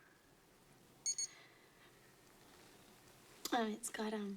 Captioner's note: watch Beeps